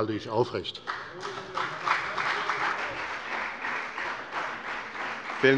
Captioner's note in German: Beifall bei der FDP und bei Abgeordneten der CDU